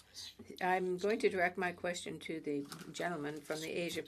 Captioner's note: speaking French